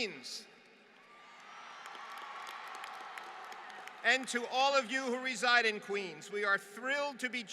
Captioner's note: applause